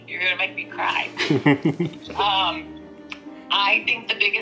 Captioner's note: both chuckling